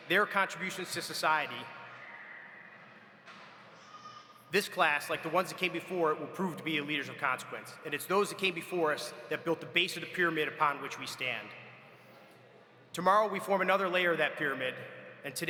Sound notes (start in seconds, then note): none